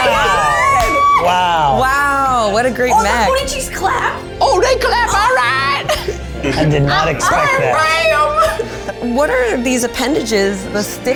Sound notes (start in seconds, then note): 4.9 in puppet voice